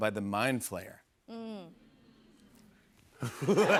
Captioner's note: audience "mms"; laughter